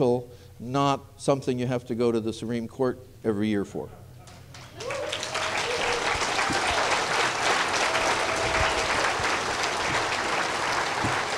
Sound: applause

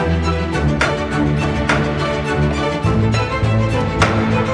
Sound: hammering

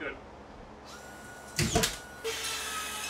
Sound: nail gun thumping; saw buzzing

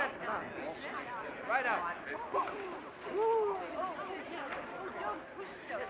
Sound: commotion

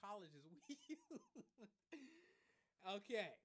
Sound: laughing

